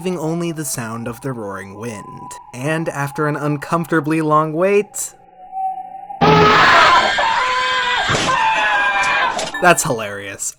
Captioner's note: scary noise